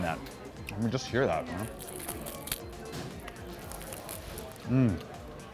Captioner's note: crunching chicken